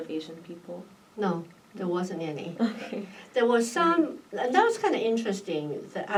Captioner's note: laughs